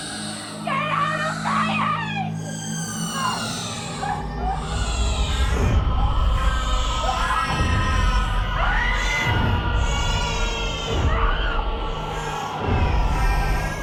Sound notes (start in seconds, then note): 3.0 booming sounds, Sarahs sobs, Babies cry; 11.0 Sarah screams in rage